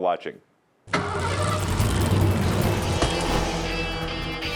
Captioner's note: engine revs; rock music